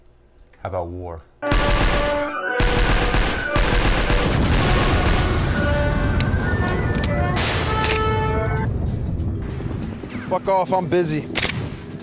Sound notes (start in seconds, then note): 1.4 gunfire; 2.6 continued gunfire; 3.6 phone rings